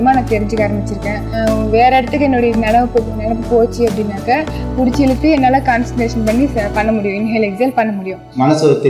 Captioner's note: inhale / exhale